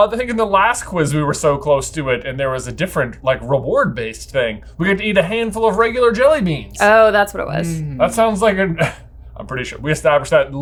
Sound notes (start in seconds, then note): 7.4 scoffs